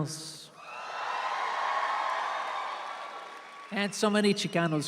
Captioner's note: audience cheers